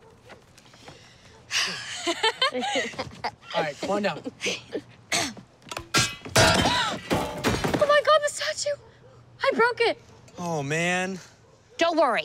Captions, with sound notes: [ Sighs ] [ Laughter ] Alright, come on down. [ Chuckles ] [ Clears throat ] [ Clanking ] [ Gasps ] Oh, my God, the statue! I broke it! Oh, man. Don't worry.